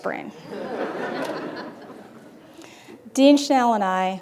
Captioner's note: laughter